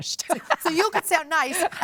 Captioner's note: laughs